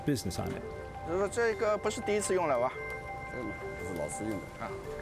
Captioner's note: speaking Chinese